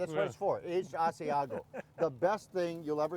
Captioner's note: man laughing